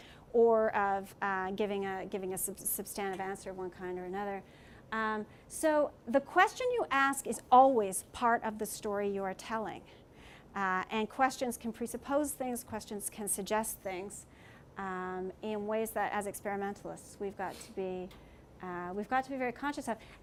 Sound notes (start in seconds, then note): none